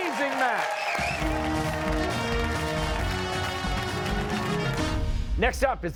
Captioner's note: cheers and applause